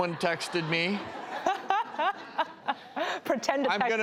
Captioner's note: laughter